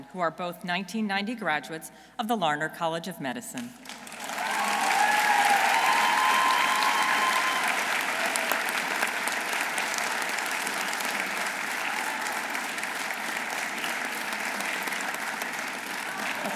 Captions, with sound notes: who are both 1990 graduates of the Larner College of Medicine. -(audience cheering) -(audience applauding)